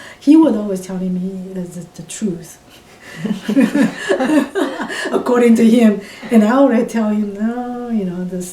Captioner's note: all laugh